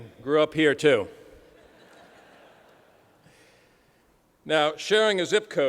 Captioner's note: laughter